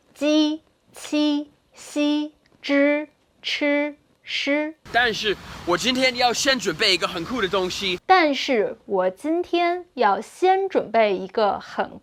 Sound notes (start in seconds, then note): 0.2 speaking in Mandarin; 5.1 speaking in Mandarin